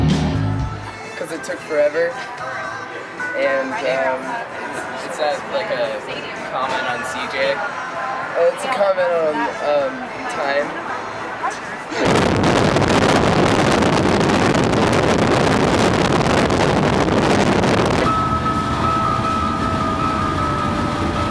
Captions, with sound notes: - 'Cause it took forever, and... - It's a comment on CJ. - It's a comment on time. (wind crackling) (radio music)